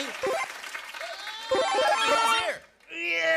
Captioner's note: Mario power-up sound plays; grunts